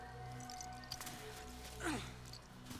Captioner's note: grunting